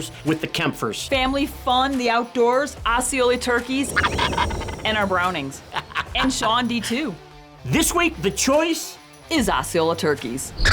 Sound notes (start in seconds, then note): 3.8 turkey gobbling